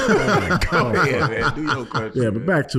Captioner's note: laughing